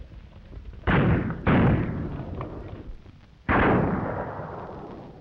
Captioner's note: gunshots banging